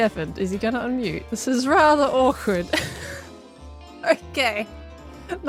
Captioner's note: laughs